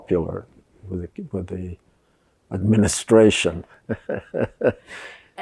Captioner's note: laughing